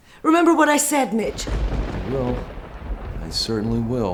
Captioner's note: thunder booms